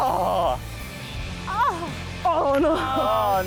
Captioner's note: all groan